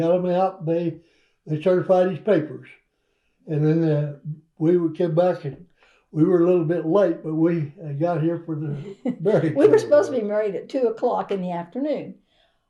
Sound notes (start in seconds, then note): 9.5 laughs